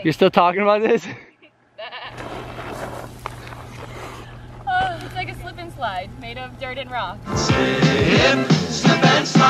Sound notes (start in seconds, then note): 1.5 makes goat noise